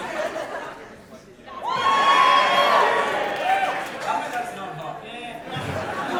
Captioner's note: big audience cheer